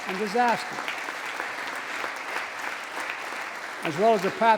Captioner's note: applause